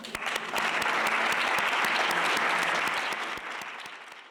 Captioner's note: applause